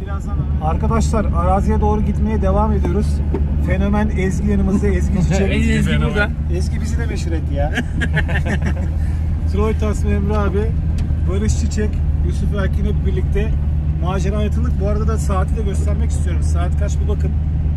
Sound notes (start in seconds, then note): 7.7 laughs